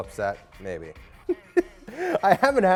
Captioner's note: laughs